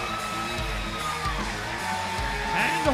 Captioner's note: cheers and applause